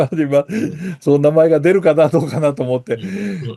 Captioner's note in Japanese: 笑い